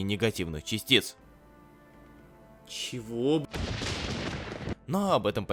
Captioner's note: thunder